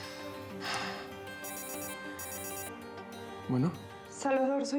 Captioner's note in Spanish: suena el teléfono